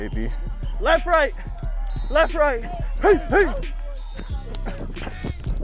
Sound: grunting

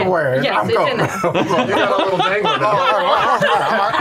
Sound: laughter

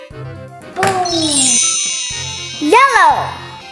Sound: magic wand

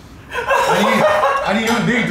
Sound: laughing

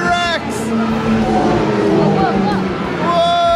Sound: T-Rex roaring

